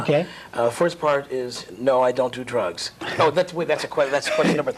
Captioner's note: laugh